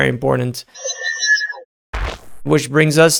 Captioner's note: electric whooshing